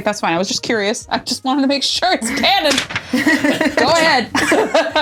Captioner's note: rattles paper; weird chuckle